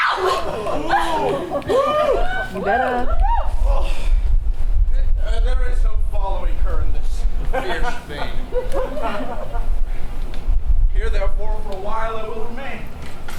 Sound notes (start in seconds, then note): 0.0 audience hooting; 4.2 groans